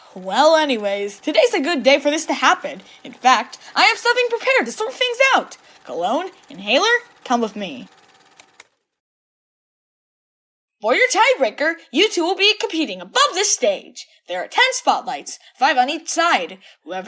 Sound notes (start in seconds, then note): none